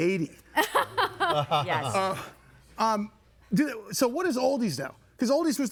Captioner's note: laughing